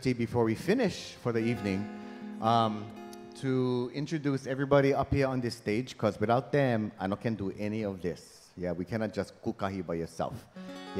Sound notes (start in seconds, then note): 9.2 speaking in Hawaiian